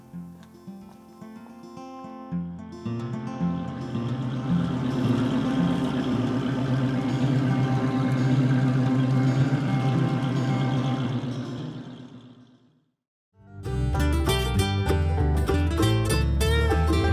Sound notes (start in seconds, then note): 0.9 soft guitar music; 3.8 car engine roaring; 13.6 soft music